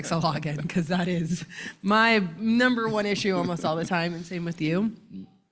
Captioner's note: laughing